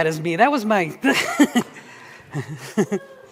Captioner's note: chuckles